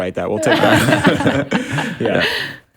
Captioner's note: all laugh